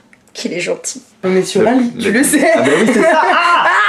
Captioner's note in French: rires